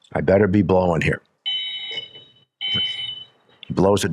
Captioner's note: whistle blows twice